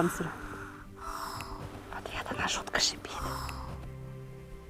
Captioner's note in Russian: шепотом